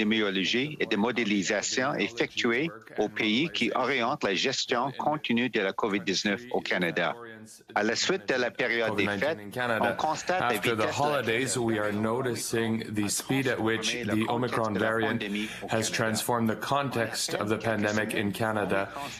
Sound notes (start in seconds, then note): 4.7 speaking French